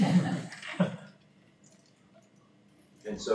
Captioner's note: laughter